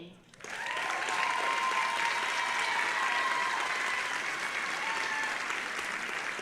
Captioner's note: audience applauding and cheering